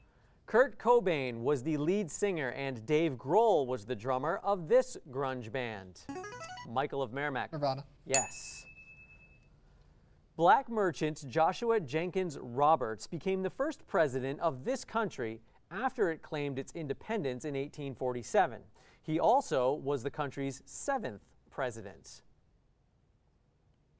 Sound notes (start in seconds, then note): 6.2 player buzzer; 8.1 ding